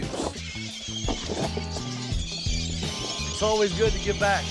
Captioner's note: birds screeching, feeding